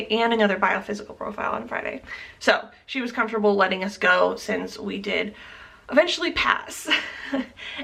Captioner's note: chuckle